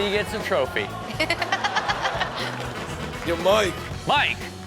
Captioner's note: Chanel laughs